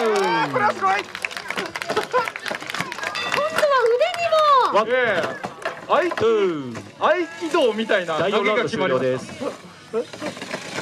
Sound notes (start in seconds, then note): 3.1 bell rings